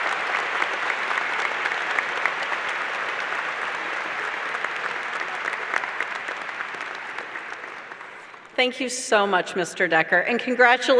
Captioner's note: applause